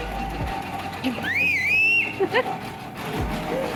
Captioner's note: whistling back